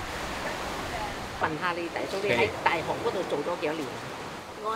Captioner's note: Cantonese